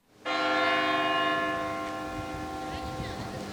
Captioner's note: bell rings